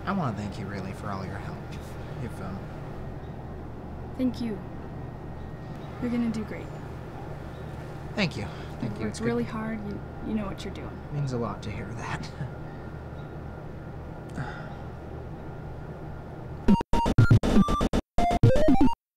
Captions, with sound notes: I want to thank you, really, for all your help. You've um -Thank you. You're gonna do great. -Thank you. -You've worked really hard. You know what you're doing. -It means a lot to hear that. (nervous sigh) *upbeat electronic music*